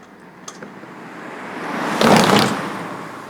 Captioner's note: A car whooshes